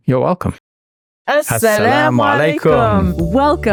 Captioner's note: speaks foreign language